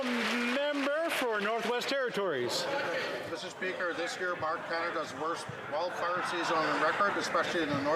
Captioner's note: some Applause